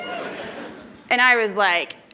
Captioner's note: applause